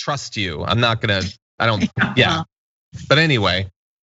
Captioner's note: laugh